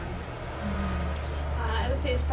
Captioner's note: construction noise in background